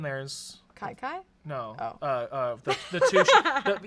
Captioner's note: laughs